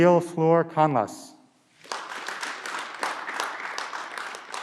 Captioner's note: clapping